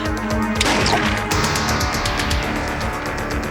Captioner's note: gunshot